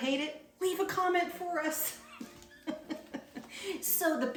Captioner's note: laughs